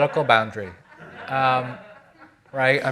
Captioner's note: audience laughing